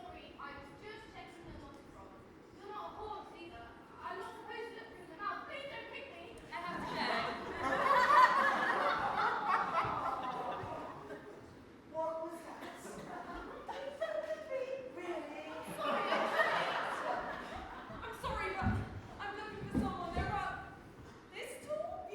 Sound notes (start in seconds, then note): 6.6 audience laughs and awwws; 15.5 audience laughs